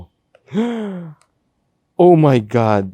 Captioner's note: gasps